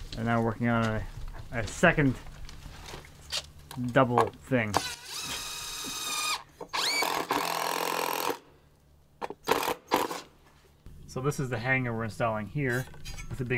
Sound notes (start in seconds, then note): 4.9 drill grating; 4.9 drill whirring